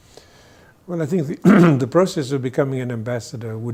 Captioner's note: clears throat